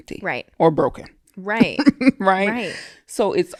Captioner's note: laughing